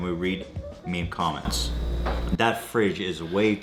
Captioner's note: fridge hums loudly